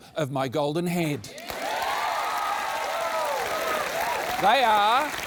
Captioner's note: cheering, applause